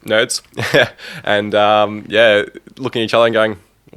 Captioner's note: laughs